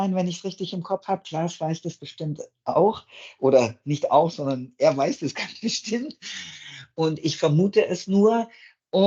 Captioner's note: laugh